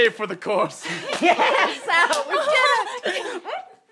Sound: cheering

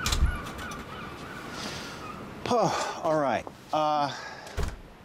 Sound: sighs

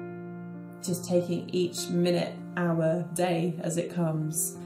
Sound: voiceover

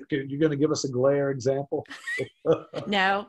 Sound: chuckles

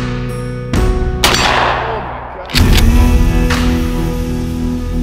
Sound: gunshot exploding

